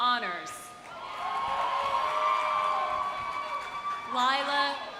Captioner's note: audience applauding; audience cheering